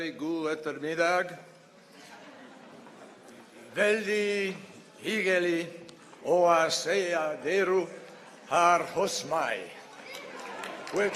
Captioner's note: in Norwegian; applause